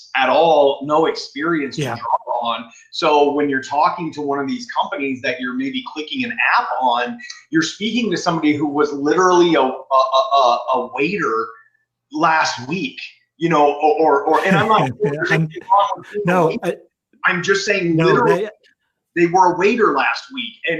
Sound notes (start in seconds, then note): 14.3 laughs